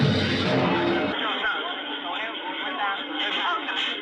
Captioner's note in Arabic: توقف الموسيقى، ثرثرة غير واضحة في الخلفية